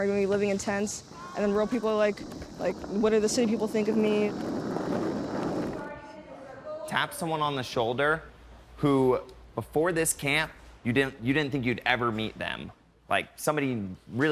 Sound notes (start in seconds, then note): 5.4 wheels rolling; 6.4 chatter